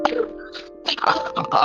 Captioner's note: cough x4